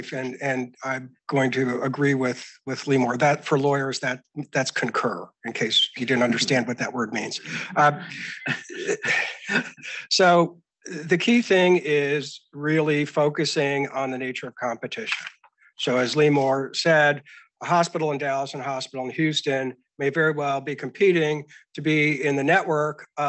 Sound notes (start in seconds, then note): 9.0 speakers giggling